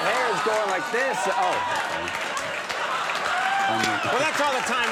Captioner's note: audience laughing